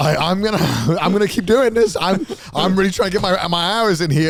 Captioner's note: men laugh